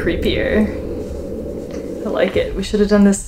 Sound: low sound slowly descending in pitch

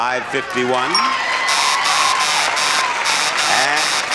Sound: buzzer repeatedly buzzes

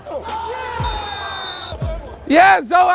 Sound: whistle

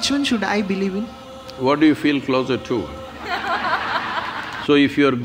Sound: laughter

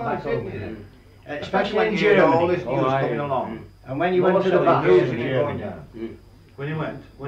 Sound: various agreement

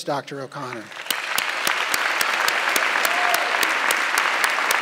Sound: audience clapping

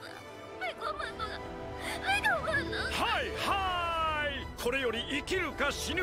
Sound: speaking in foreign language

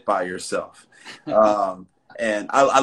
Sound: laughs

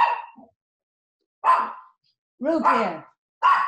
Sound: dog barking

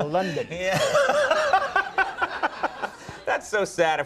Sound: laughing

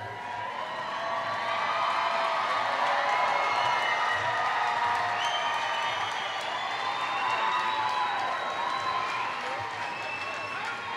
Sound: applause

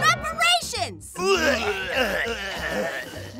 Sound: vomiting noises

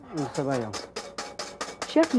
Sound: whisk tapping; voiceover

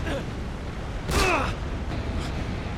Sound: gunshot

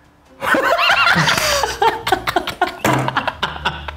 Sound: laughing

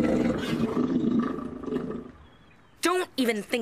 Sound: Owen's Tummy Growling

